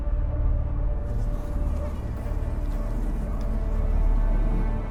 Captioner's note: insects buzzing